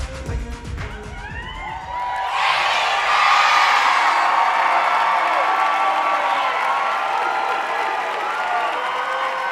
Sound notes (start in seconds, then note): 1.3 audience cheering